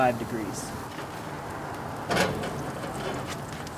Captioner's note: sizzling